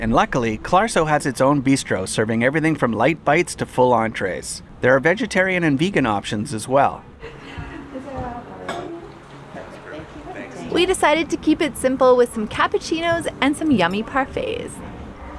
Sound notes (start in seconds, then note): 7.3 people chattering; 15.1 upbeat music